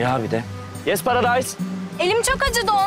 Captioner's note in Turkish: Yabancı dilde konuşma